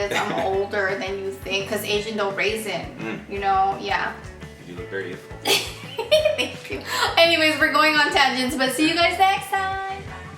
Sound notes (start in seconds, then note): 5.4 laughs